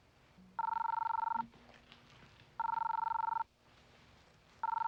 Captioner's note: phone ringing